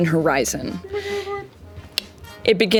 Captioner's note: tongue click